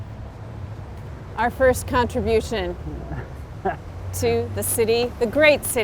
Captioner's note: chuckles